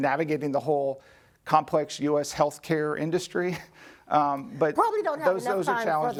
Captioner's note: laughs